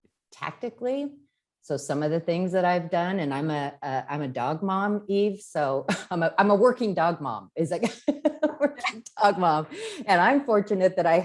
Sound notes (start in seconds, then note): 8.1 laughs